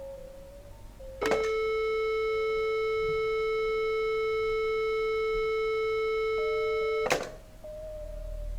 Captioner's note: telephone beeping